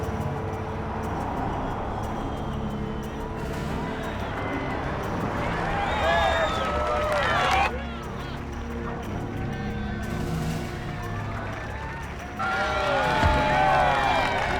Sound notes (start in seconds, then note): 5.7 cheering